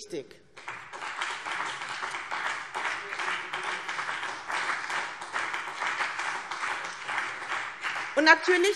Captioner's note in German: Beifall BÜNDNIS 90/DIE GRÜNEN und vereinzelt CDU